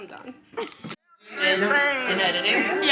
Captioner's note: laughing